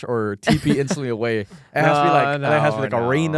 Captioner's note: laughs